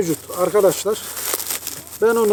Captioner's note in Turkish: poşeti açarken çıkan hışırtı sesleri